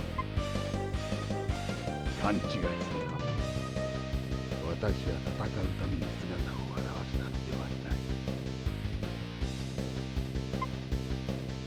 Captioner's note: geese